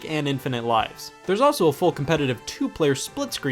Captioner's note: none